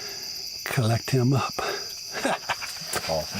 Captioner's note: laughing